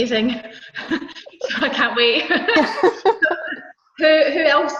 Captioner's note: laughs